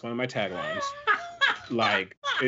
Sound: laughs

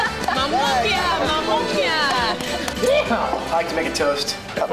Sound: speaking in foreign language

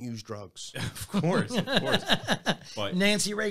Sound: laughs

